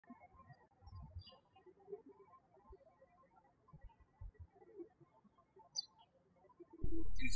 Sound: birds chirping

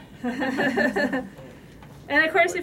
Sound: laughter

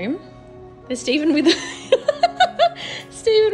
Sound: laughs

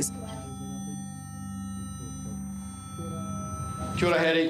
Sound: low continuous beep, muffled voices

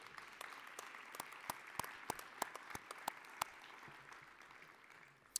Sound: applause

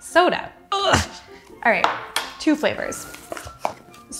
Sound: grunts

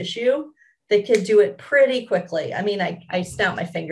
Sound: snaps finger

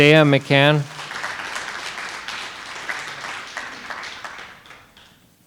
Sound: audience applauding

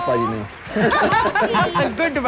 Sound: everyone laughs

